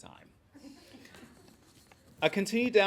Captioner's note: laughing